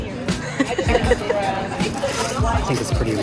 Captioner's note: laughing